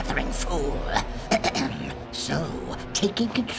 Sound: clears throat

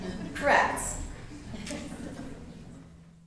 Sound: laughter

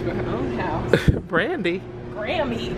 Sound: laughs

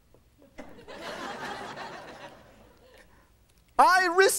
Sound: laughing

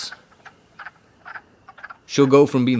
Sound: more quacking!

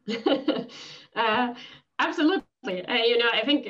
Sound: laughs

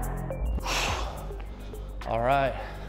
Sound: exhaling

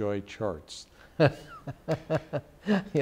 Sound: laughter

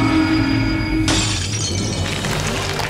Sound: shattering

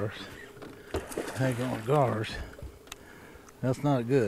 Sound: fish splashing

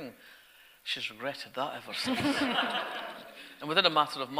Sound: audience laughter

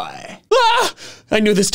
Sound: exclaims

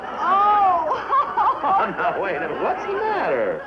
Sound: Joan crying

